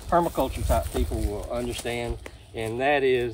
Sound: cameraman feet shuffling

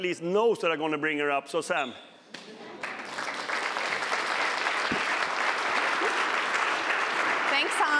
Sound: applause

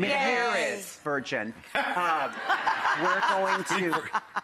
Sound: audience and Rachael laughing

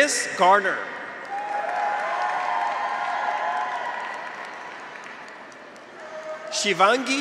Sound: graduates cheer; audience applauds

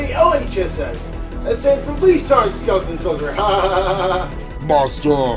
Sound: laughs

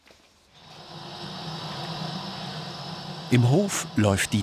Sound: machine noise

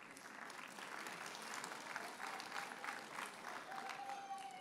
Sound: audience applauds

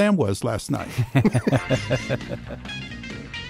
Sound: laughs

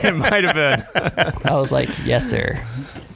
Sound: laughing

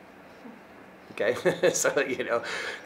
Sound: laughing

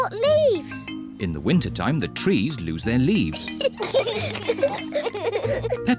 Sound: both giggle

